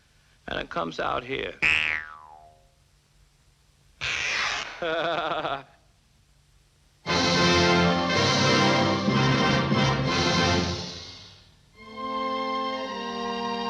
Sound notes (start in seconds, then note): 4.0 dickey ripping; 4.8 Elmer chuckling; 7.0 lively orchestral music